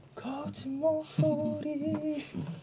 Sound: imitation of his voice

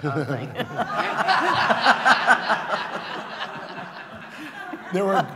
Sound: laughter

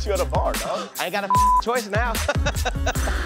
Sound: beep; laughter

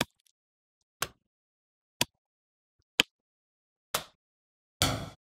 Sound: hitting sounds

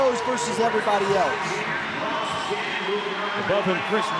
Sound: audience cheering

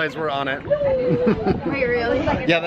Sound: laughing

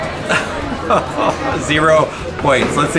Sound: laughs

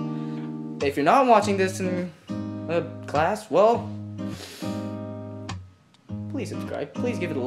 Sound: breathes in

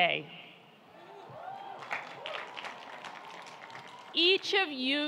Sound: audience applauding and cheering

